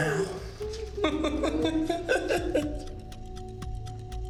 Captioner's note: Ben laughing; dramatic music